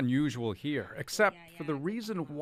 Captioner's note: speaking foreign language